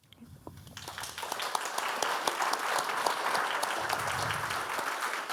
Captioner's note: audience applauding